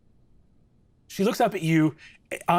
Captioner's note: none